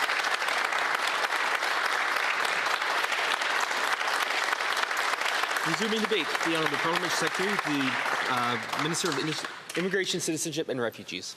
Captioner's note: some Applause